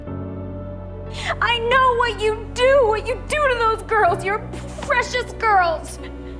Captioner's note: shouting